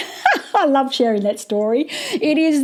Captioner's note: laughs